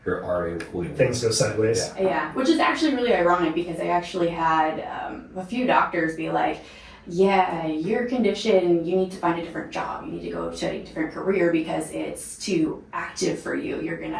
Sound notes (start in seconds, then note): none